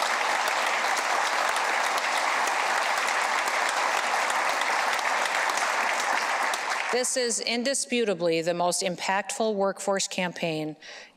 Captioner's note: applause